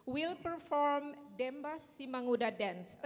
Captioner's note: speaking in Indonesian